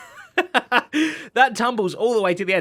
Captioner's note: laughs